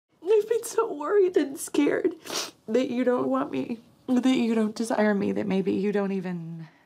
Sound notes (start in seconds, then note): 2.0 sobbing